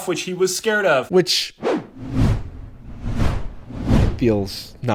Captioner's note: wooshing